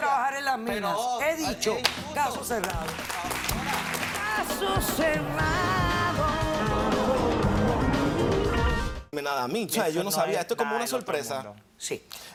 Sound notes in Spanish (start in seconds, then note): 5.3 aplausos